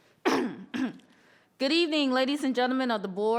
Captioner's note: clears throat